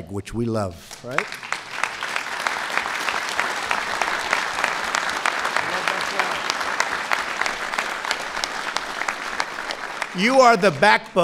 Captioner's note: applause